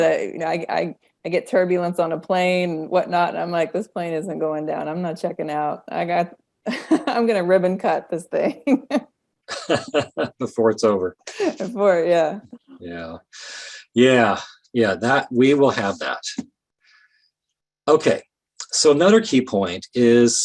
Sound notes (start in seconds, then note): 7.7 laughing